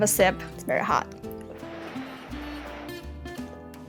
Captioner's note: blowing